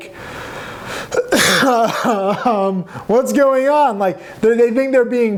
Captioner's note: coughs